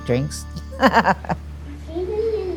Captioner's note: laughs